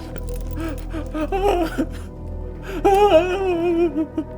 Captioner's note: crying